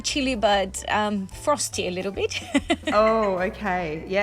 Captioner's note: laughing